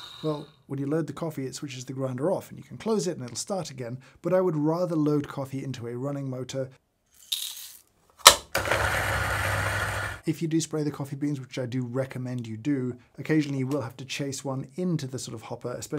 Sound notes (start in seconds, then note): 8.3 grinder whirring